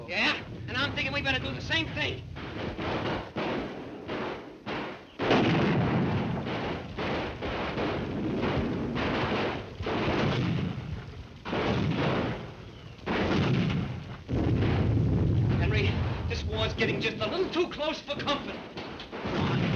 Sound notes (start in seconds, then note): 3.0 artillery booming; 3.0 guns firing